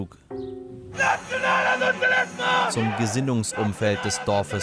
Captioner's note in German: Heiseres Brüllen